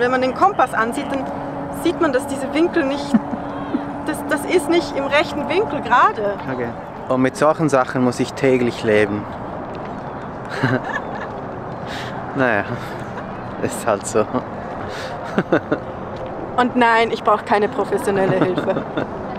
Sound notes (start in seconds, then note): 10.5 laughs; 15.0 laughs